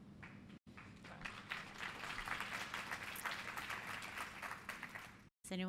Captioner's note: applause